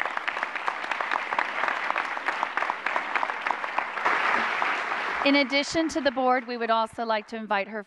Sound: applause

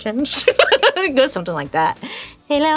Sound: laughing

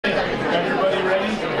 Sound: murmuring

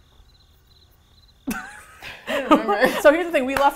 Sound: crickets; both laugh

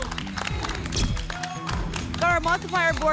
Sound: applause and cheering; camera flash sound; whoosh

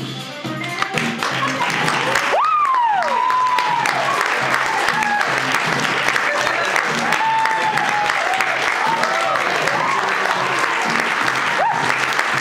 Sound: applause

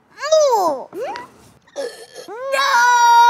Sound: shouts

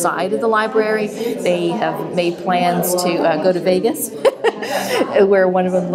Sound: laughs

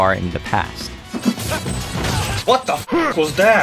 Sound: game SFX

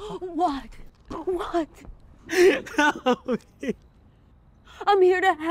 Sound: Shane crying

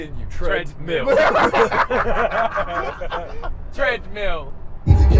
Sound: laughing

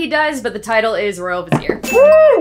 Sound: bell dinging

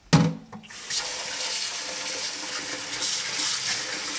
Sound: tap water running

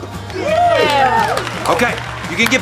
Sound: cheering

